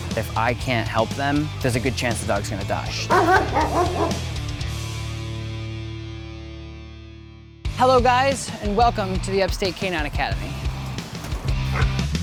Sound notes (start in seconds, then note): 3.0 barking